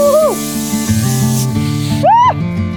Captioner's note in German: Druckluft zischt; Fröhliche Musik